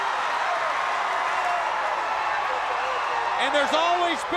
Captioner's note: crowd cheering